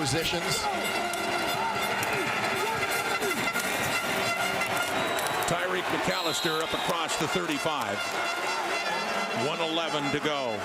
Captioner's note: crowd Noise